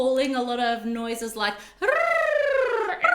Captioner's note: imitates penguins